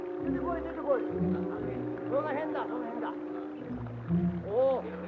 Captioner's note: soldiers speaking in Japanese